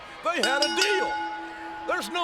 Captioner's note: bell rings